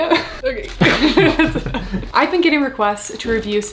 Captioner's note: chuckles